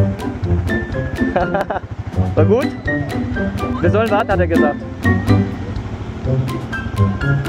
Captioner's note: laugh